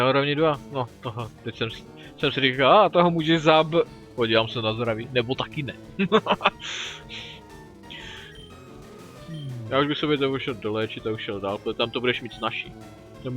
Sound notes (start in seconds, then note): 5.9 laughs at his own joke